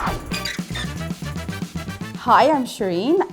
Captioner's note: upbeat instrumental music; logo squeaks